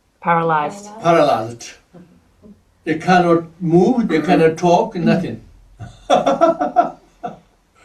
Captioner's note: laughs